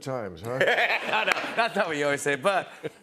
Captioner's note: laughter